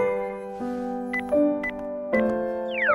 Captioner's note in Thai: ปี๊บๆ